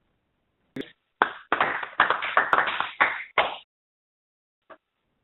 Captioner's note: audience applauds